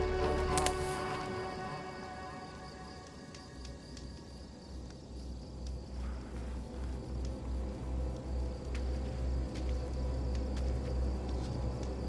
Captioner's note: creaking